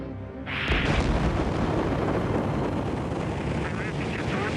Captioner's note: explosion